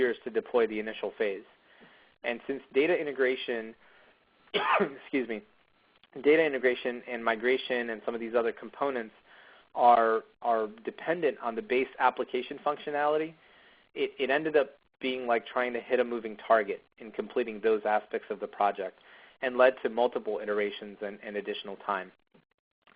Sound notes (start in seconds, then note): 4.5 cough